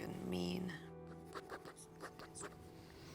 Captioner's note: scratching